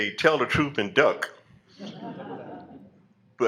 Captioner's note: laughter